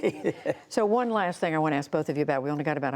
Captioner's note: laughter